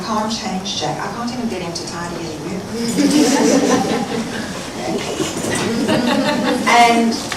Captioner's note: laughter